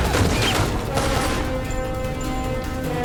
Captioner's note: gunshots, ricochets; gunshots; metal clinking